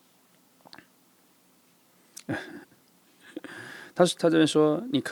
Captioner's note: sigh